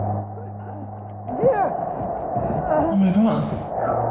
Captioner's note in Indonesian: Mengerang, Batuk Lanjutkan